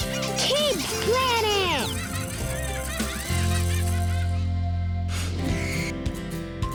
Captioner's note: children laughing; upbeat cheerful music